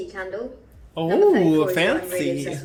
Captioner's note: excited